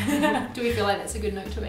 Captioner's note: laughing